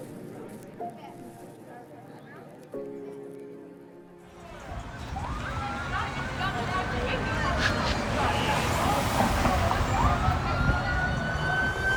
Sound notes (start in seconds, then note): 0.1 somber music; 4.9 siren wailing